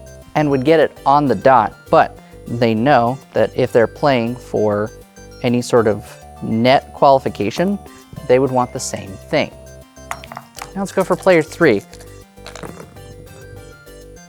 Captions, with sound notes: And, would get it, on the dot. But, they know that if they're playing for any sort of net qualification, they would want the same thing. (dice clattering) Now, let's go for player three. (dice rattling) (dice rolling)